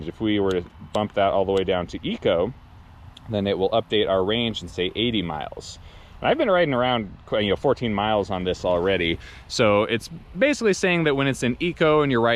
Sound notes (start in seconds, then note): none